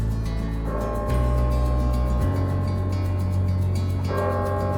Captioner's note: clock strikes